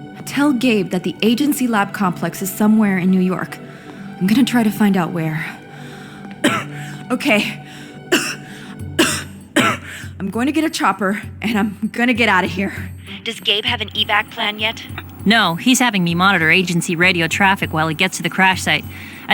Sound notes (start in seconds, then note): 7.8 coughs; 8.9 coughs repeatedly